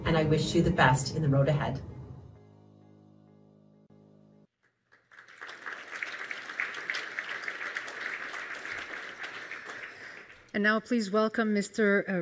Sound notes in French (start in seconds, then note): 4.6 Applaudissements